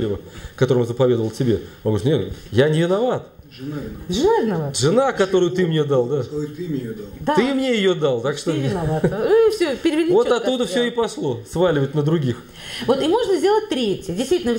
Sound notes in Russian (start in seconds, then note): 8.7 смех